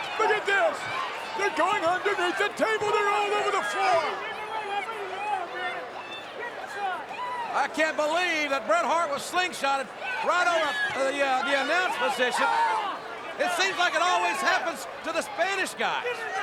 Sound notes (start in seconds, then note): 0.0 crowd yelling; 4.8 crowd yelling continues